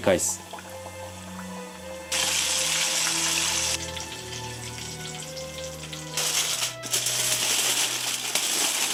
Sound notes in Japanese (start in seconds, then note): 2.1 揚げる音